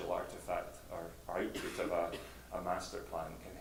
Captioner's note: woman coughs